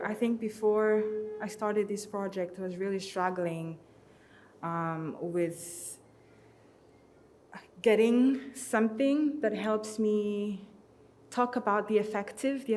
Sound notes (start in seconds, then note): none